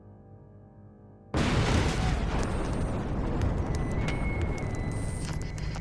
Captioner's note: bombs exploding